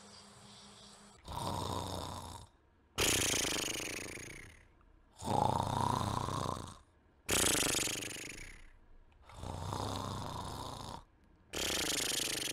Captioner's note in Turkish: Horlama sesi